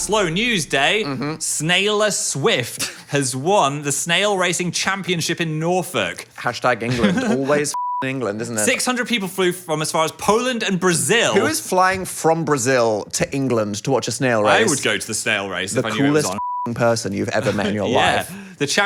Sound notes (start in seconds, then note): 7.7 beep; 16.0 beep